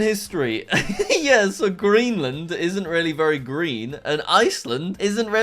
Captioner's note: laughing